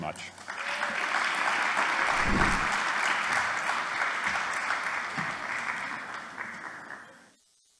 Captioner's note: applause